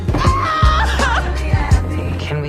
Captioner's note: screams in agony